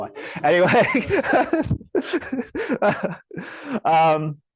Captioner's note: laughs